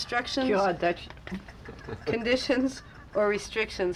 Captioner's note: laughing